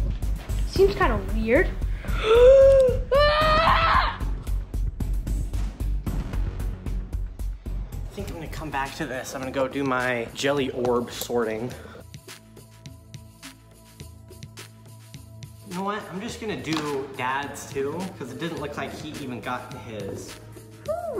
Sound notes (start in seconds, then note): 2.2 screams